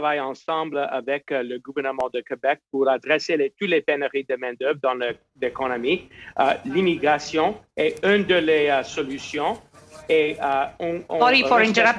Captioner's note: speaking in French